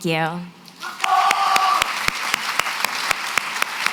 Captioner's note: applause